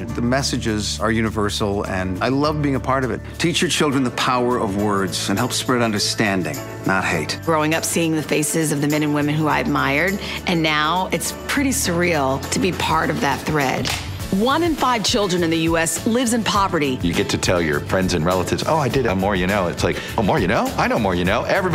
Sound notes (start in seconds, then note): 13.8 clapperboard clicks